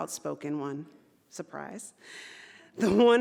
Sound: chuckles

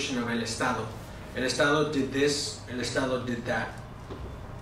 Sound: spanish

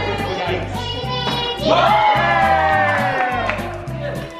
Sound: group cheers

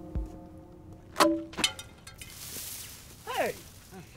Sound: metal clanging; spaghetti splashing

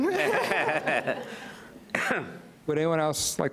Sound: audience laughs

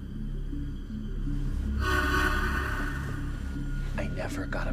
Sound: horn blares

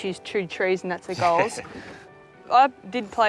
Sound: laughing

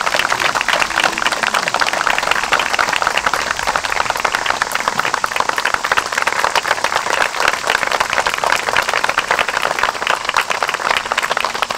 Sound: applause

